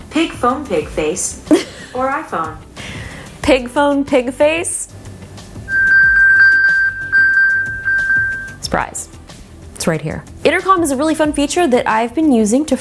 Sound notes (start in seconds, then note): 1.5 laughs; 5.7 iPhone chiming